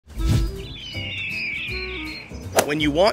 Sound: birds Chirping; upbeat Music

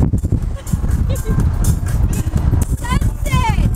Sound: laughing

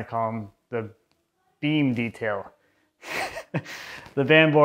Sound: laughs

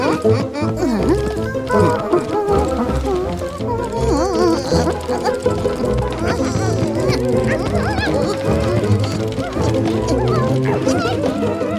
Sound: panting

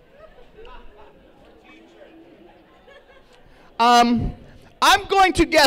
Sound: laughter

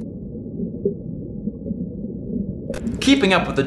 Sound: underwater echo

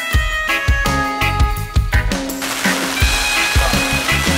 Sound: rain

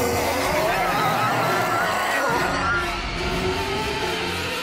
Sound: howling

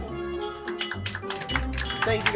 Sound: applause

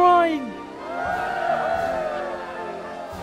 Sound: Windclan cheering

